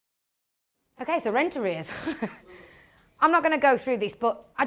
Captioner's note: laughs